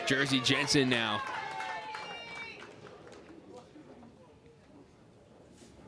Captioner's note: crowd cheers and applauds